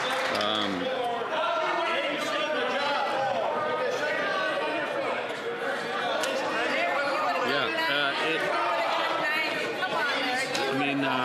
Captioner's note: cheering and Applause